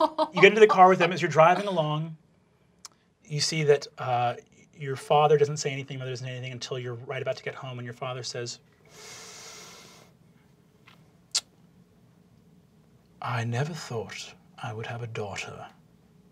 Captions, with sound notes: - You get into the car with them. As you're driving along, you see that your father doesn't say anything. Your mother doesn't say anything until you're right about to get home, and your father says, (inhales sharply) "I never thought I would have a daughter,